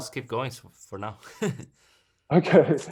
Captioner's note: laughs